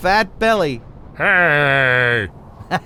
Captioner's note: laughs